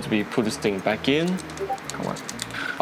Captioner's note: discord pings